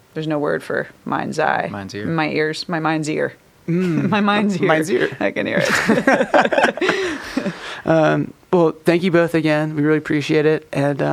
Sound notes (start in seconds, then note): 5.5 all chuckle